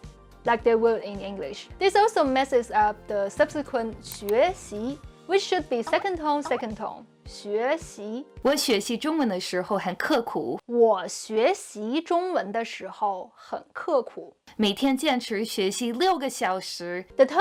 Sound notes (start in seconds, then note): 6.6 speaking Chinese